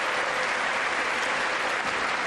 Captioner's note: applause